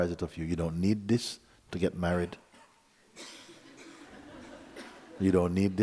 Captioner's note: laughter